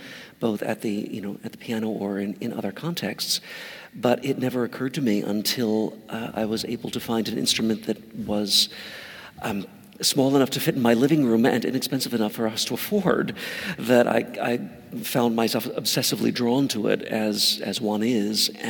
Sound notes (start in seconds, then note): none